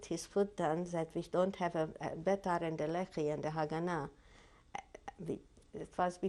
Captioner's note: hebrew